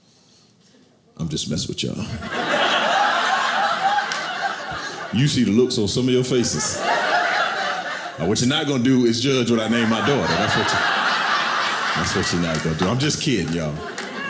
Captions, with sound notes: I'm just messing with y'all. (audience laughing) You should see the looks on some of your faces. What you're not gon' do is judge what I named my daughter. (audience laughing) That's what you're not gon' do. I'm just kidding, y'all.